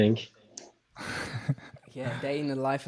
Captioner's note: laughing